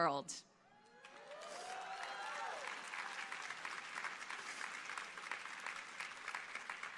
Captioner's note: audience applauding